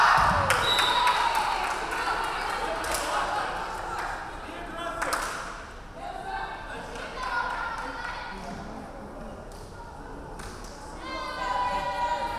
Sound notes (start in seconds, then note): 0.0 crowd cheering; 0.5 referee whistling